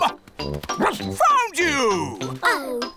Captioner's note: barks